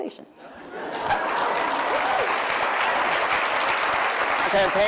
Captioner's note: cheering